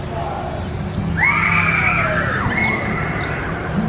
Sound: screaming

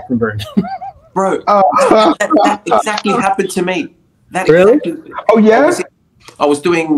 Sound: laughter

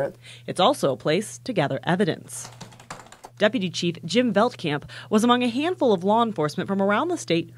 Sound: nats typing

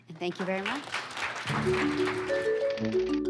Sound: applause

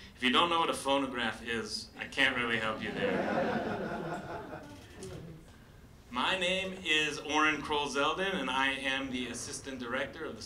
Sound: laughter

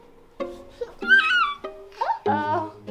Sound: squeals

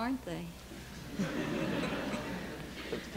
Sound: laughter

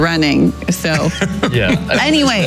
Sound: laughing

